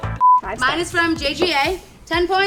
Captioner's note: sexy music plays; beep